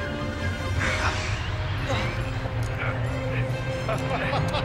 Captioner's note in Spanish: viento silbando